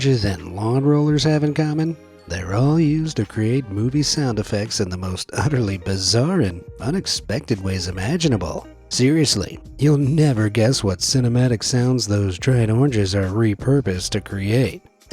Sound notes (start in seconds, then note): none